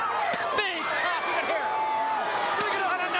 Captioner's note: crowd chattering